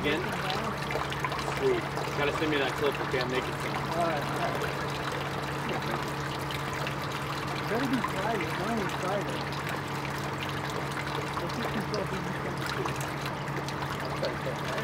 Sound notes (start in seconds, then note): 10.3 background chatter continues